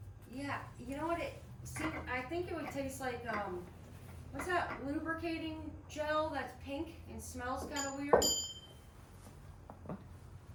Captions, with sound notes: - Yeah, you know what, see, I think it would taste like, what's that lubricating gel that's pink and smells kind of weird? (bell dings) - What?